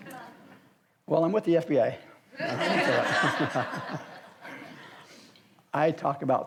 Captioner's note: audience laughs; audience laughs